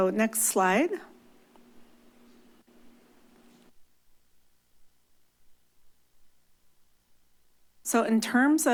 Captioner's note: silence